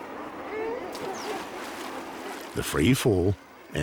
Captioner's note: splashing